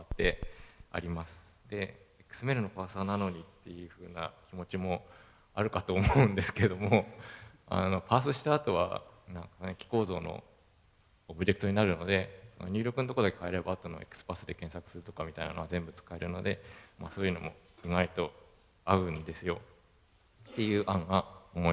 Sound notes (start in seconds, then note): 6.0 laughs